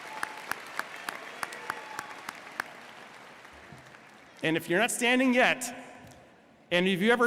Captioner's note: applause